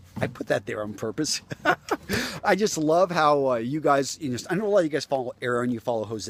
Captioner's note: laughs